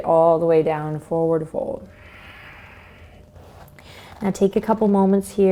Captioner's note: exhales